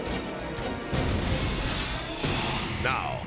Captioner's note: jet crashing